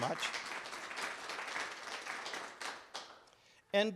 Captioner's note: clapping